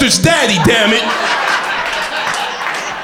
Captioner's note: crowd laughter